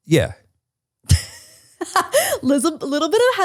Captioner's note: laughs